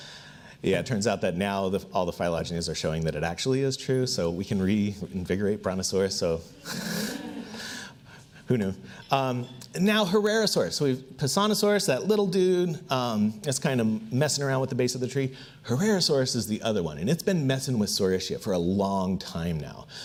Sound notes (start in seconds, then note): 6.6 audience laughs